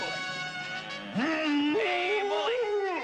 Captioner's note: bellows louder